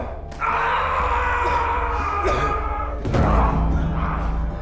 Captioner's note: yelling